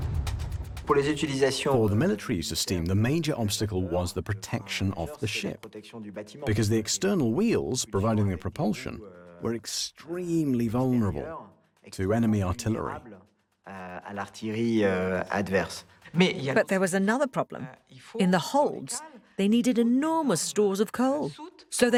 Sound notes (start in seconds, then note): 1.9 voiceover; 16.7 voiceover